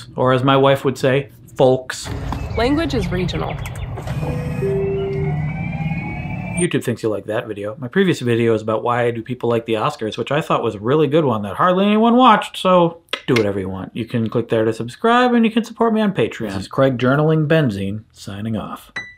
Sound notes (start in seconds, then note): 4.7 car beeps; 4.7 car whooshes